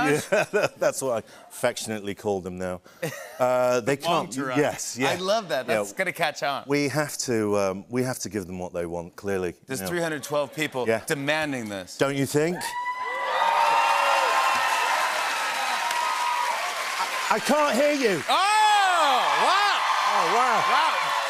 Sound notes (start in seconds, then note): 14.1 cheers and applause; 18.3 cheers and applause intensify